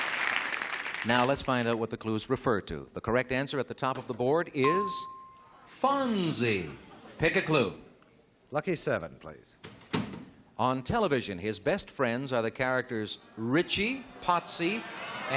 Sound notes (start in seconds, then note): 6.5 ding